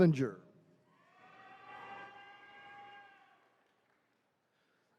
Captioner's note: attendees cheering